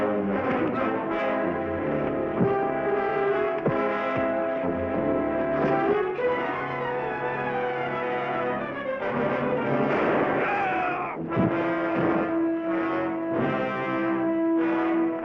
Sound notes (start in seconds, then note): 10.4 grunts; 11.2 gunshot bangs